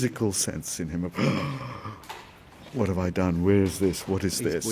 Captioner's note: gasps